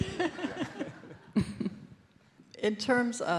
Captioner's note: audience laughs